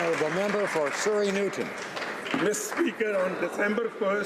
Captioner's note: some applause